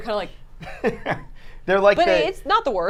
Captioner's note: laughs